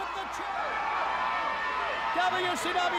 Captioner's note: crowd chatter